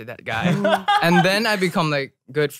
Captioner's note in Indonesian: tertawa